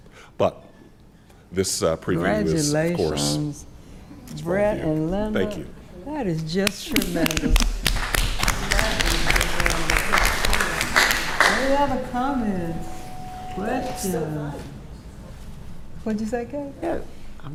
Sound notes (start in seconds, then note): 7.0 attendees applauding